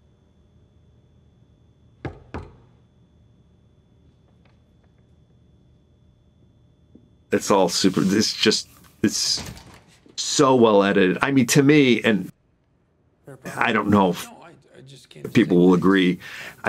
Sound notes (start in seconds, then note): 2.0 knocks on door